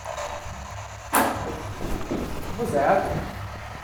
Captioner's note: small banging noise